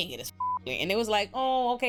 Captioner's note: beep